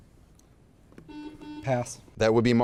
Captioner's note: buzzer beeping